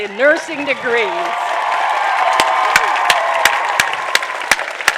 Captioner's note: applause